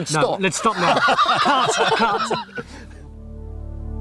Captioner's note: all laughing; soft ethereal music